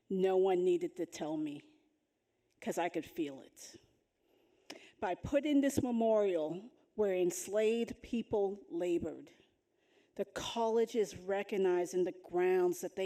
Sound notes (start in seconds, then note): none